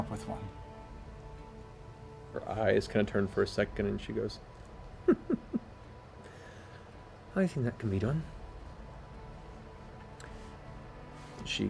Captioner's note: chuckles